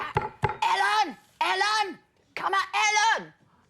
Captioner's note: knocking on table